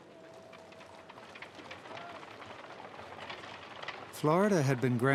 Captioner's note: people talking in background, hooves pounding ground